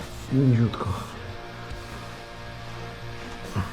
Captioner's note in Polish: parsknięcie